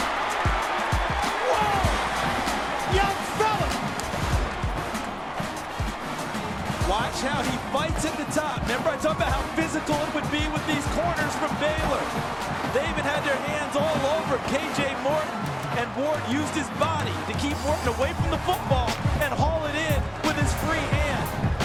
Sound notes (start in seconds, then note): 3.9 swoosh